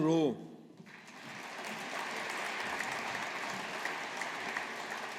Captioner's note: audience applauding